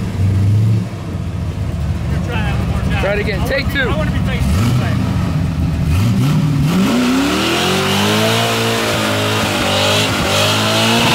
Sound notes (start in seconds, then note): 5.7 engine roaring